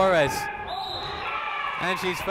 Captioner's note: whistle tweeting